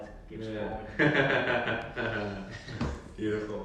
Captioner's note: laughing